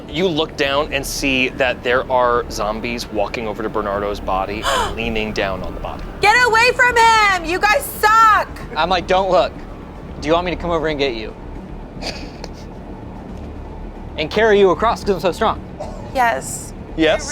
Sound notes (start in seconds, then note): 12.0 laughs